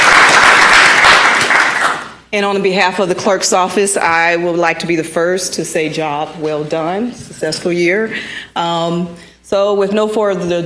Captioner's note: applause